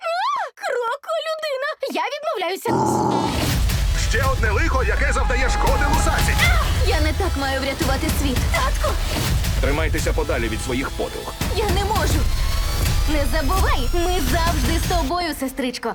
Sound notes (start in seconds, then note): 2.6 growls